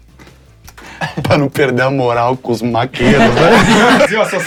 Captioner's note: risos